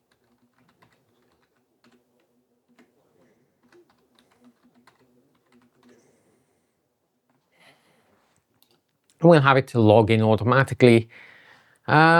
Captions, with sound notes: [typing] We'll have it to log in automatically.